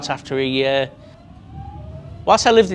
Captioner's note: train ambience